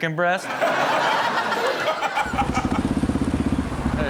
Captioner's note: audience laughs